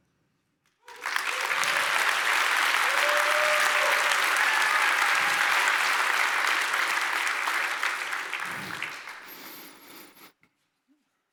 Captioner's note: applause